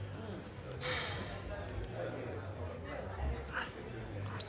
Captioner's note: Nicholas sighs